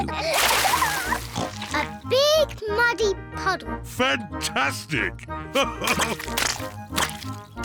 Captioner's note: oinks; laughs